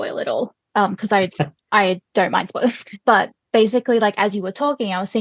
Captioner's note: laughing; laughs